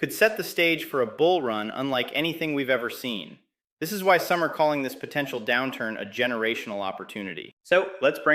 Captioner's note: excited